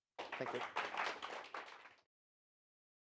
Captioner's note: applause